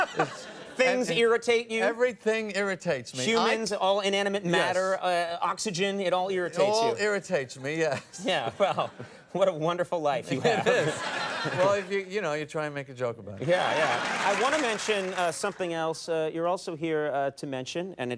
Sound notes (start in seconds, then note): 0.0 Conan and audience laugh; 10.3 audience laughs